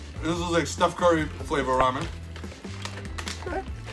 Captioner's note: pops